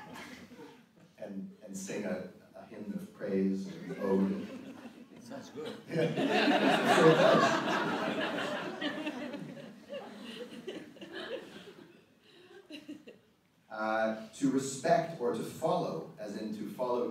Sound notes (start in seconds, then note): 6.8 audience laughter